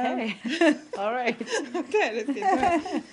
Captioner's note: laughter